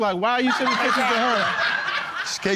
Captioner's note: audience laughs